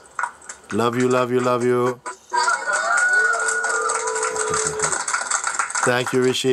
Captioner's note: cheering and clapping